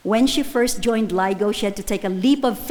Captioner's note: none